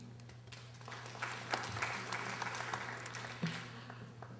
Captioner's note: audience applauding